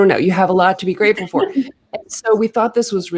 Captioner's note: laughing